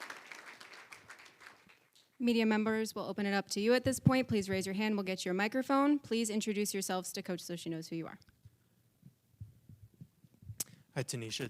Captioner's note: applause